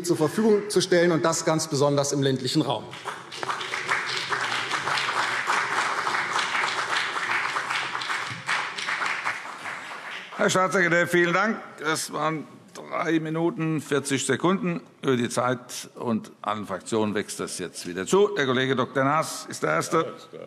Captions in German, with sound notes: zur Verfügung zu stellen - ganz besonders im ländlichen Raum. [Beifall CDU und BÜNDNIS 90/DIE GRÜNEN] Herr Staatssekretär, vielen Dank. - Das war 3:40 Minuten über der Zeit. Das wächst allen Fraktionen wieder zu. Herr Dr. Naas ist der Erste.